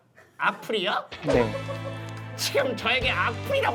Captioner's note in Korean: 웃음 참기